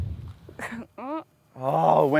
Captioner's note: chuckles